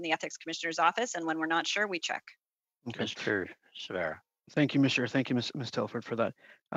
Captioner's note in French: voix de l'interprète